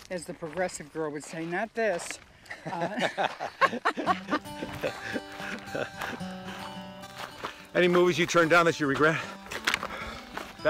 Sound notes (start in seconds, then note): 2.5 laughs; 3.9 cheerful music